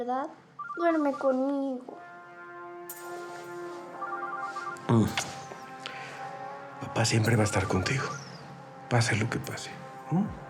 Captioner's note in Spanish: suena un teléfono; teléfono suena